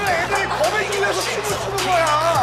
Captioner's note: cười nói vui vẻ